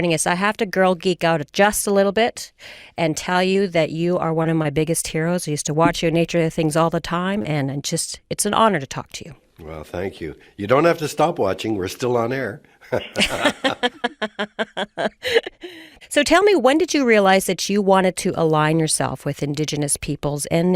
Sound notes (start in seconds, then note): 12.8 laughs